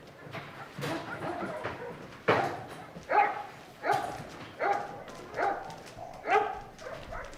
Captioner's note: dogs barking